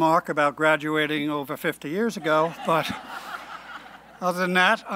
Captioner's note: laughing